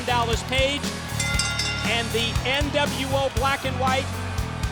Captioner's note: bell rings